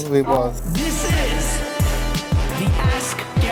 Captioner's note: voiceover